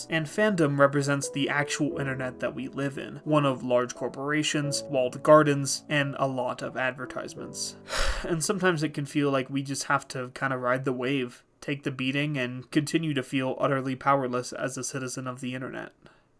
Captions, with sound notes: and Fandom represents the actual internet that we live in: one of large corporations, walled gardens, and a lot of advertisements. [sigh] And sometimes it can feel like we just have to kinda ride the wave, take the beating, and continue to feel utterly powerless as a citizen of the internet.